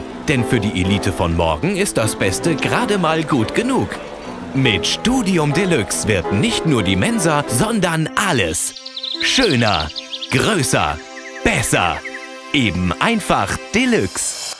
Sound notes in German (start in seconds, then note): none